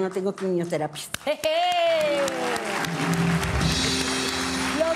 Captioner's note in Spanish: Aplausos